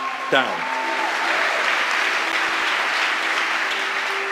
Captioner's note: applause